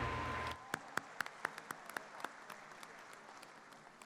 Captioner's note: audience applauding